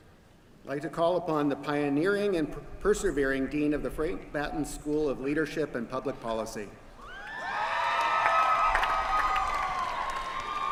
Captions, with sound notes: Like to call upon the pioneering and persevering Dean of the Frank Batten School of Leadership and Public Policy. [CHEERING]